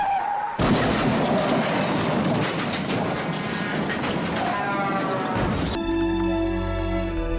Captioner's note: screams; crashes